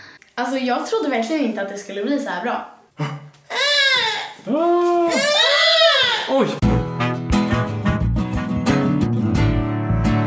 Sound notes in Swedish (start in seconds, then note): 4.9 skriker